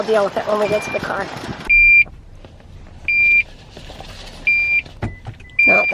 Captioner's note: pump beeping